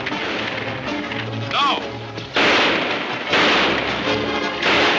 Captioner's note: gunshots banging